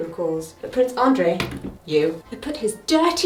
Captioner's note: pointer thuds